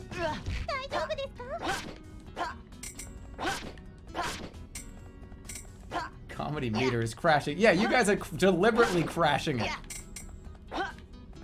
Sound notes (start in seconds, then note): none